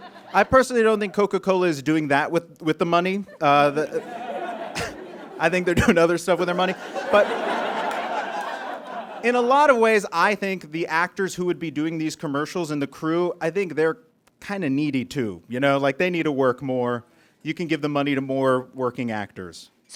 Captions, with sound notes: I personally don't think Coca-Cola is doing that with the money. (audience chuckles) I think they're doing other stuff with their money, but... (audience guffaws) In a lot of ways, I think the actors who would be doing these commercials, and the crew, I think they're kinda needy too. You know, like they need to work more. You can give the money to more working actors.